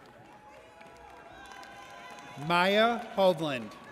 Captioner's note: audience cheers